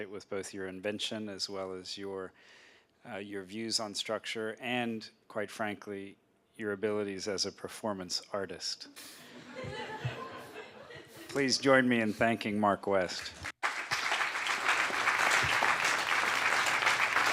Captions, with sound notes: with both your invention as well as your views on structure and, quite frankly, your abilities as a performance artist. [LAUGHTER] Please join me in thanking Mark West. [APPLAUSE]